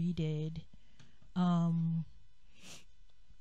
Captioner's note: sniffle